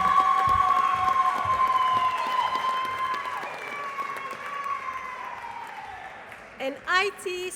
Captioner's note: applause